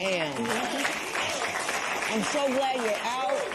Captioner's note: cheers and applause